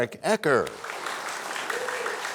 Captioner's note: applause